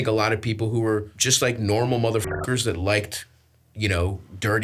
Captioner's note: beeps